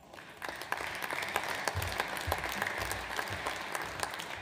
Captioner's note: audience applauds